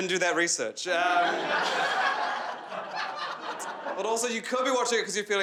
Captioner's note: crowd laughing